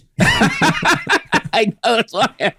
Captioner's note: both laughing